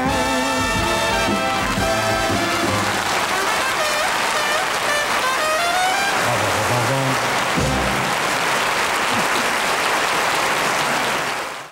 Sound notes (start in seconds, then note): 0.0 bright jazz music; 3.6 bright trumpet music; 8.1 audience applauding